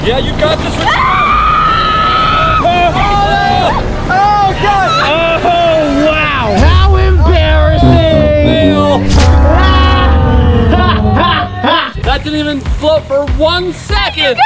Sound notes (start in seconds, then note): 0.8 screaming; 11.0 laughing